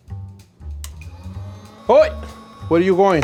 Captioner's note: lighter clicks